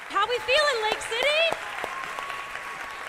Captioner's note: cheers and applause